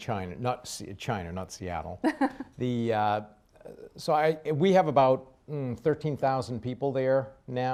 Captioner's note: laughs